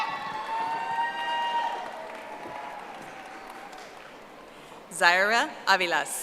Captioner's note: audience applauding